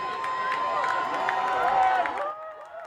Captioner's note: cheering